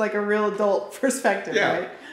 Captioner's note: laughs